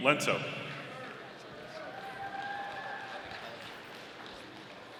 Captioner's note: audience applauding